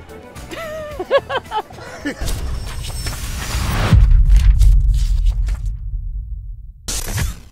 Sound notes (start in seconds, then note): 0.0 mellow music; 0.5 laughs; 2.2 logo whooshes